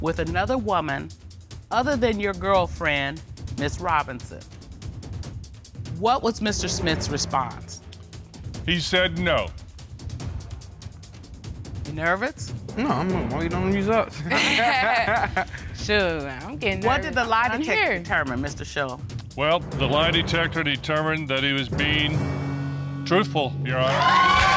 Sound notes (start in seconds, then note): 14.2 laughing